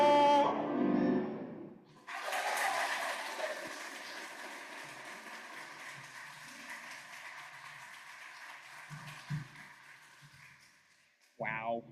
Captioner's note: applause